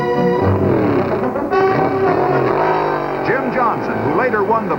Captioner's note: engines roaring